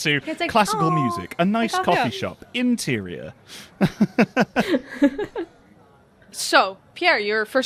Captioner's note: laughter; laughs